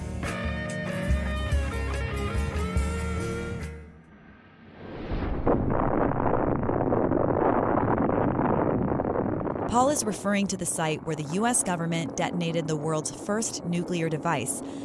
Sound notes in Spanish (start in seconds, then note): 6.5 Explosión